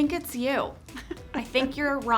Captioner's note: Angela laughing